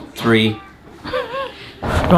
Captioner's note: laughing